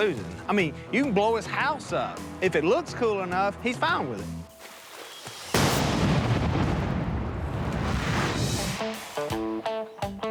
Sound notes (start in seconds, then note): 5.4 explosion